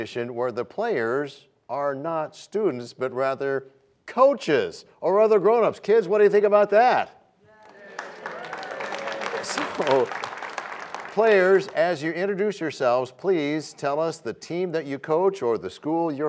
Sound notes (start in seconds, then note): 7.6 applause